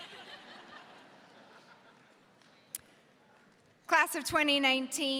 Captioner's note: audience laughs